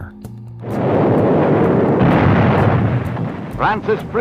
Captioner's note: bombs exploding